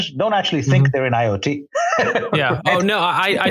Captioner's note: laughs